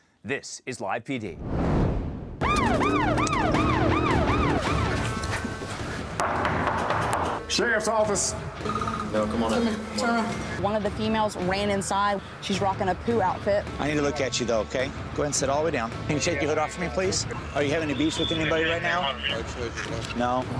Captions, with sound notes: This is Live PD. [siren wailing] [knocking] - Sheriff's office. - No, come on out. - Turn around. - One of the females ran inside. She's rocking a Pooh outfit. - I need to look at you though, okay? Go ahead and sit all the way down. Can you take your hood off for me, please? Are you having any beef with anybody right now? - I told you, no. - No?